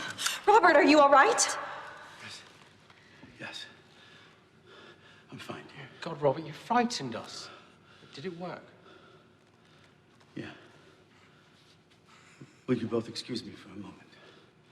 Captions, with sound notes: - Robert, are you all right? - Yes. Yes. I'm fine, dear. (panting) - God, Robert, you frightened us. Did it work? - Yeah. Would you both excuse me for a moment?